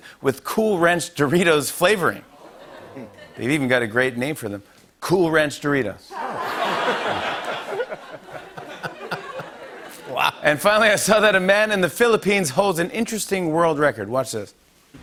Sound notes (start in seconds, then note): 2.3 ohhs and laughter; 6.1 laughter